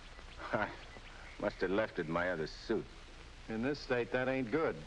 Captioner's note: birds chirping